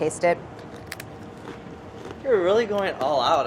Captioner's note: shell crunches